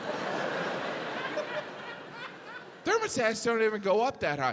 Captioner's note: audience laughs